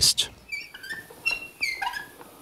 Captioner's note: squeaking